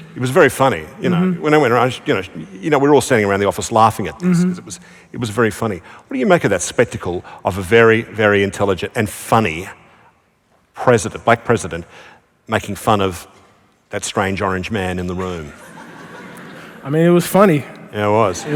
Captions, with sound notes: >> It was very funny. You know? When it went around, you know, we were all sitting around the office laughing at this because it was very funny. What do you make of that spectacle of a very, very intelligent and funny black president making fun of that strange orange man in the room? [ Laughter ] >> I mean, it was funny. >> Yeah, it was.